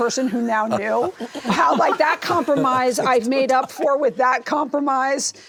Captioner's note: laughter